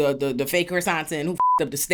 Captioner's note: beep